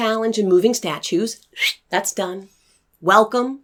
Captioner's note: makes crossing out sound